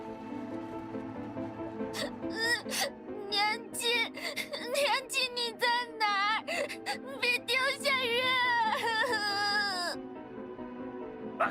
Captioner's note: sobbing